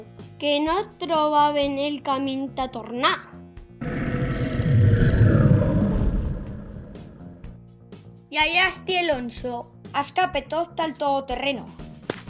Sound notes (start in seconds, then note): 3.8 snarl